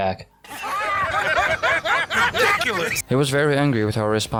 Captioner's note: Arthur and the gang laughs hysterically